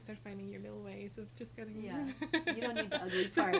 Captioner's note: laughs